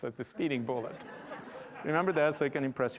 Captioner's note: laughter